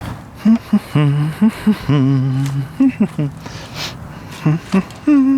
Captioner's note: humming